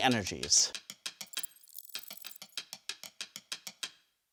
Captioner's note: graphics buzzing; soft drum music